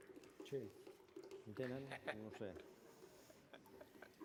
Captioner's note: non-english speech